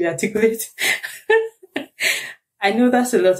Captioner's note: laughs